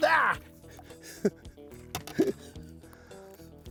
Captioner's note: chuckles